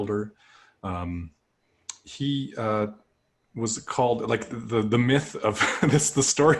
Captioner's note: laughter